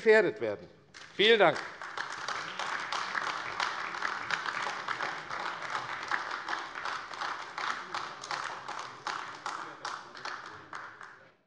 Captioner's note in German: Beifall AfD